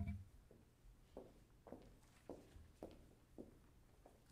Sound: heels clicking

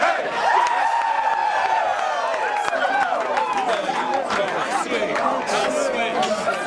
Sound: cheering

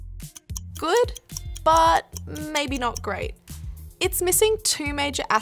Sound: timer ticks

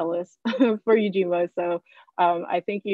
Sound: chuckling

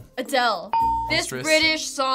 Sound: ding

